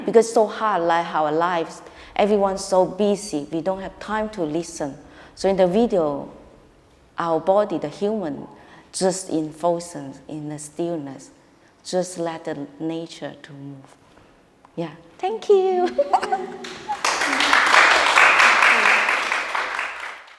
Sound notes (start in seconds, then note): 15.8 laughing; 15.9 audience applauding